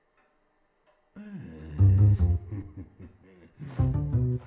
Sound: chuckles

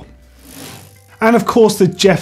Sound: bike chain whirring

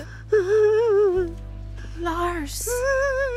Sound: sobbing

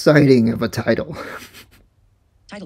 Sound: laughs

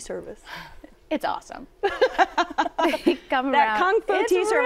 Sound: laughs

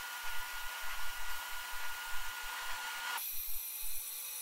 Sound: grinding sound

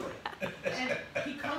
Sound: laughing

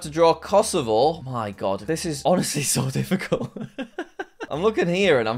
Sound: laughs

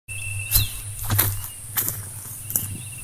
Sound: footsteps

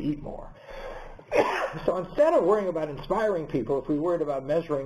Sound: cough

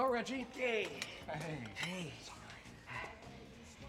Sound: whispers

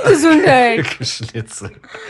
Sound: laughter

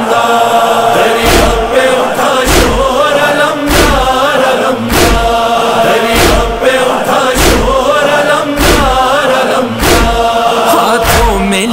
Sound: chanting

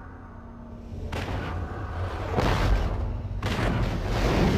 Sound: dramatic sounds; digitized landslide sounds

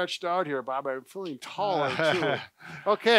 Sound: chuckles

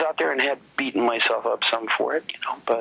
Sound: none

